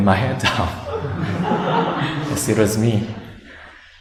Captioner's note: laughter